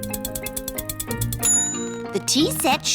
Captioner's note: bell dings